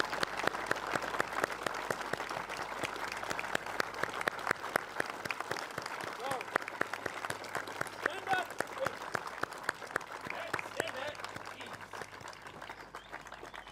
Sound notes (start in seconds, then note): 2.9 applause